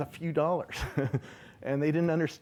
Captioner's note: laughing